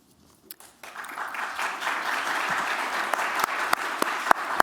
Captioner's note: applause